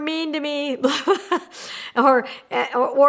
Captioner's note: laughs